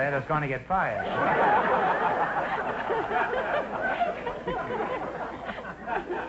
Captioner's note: audience laughter